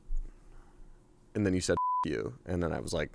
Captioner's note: beep